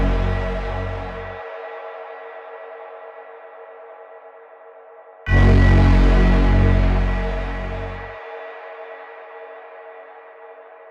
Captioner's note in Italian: Campane